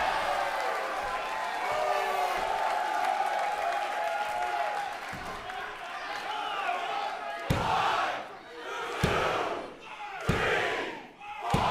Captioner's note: crowd cheering